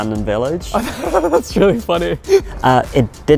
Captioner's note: laughs